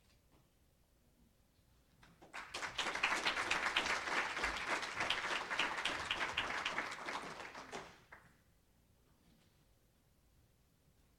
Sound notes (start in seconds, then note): 2.1 applause